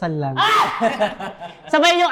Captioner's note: laughs